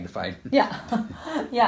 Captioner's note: laughter